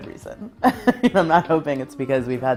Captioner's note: laughs